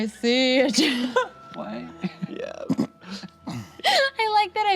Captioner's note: laughs; laughs